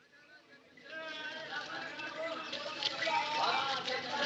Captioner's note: chattering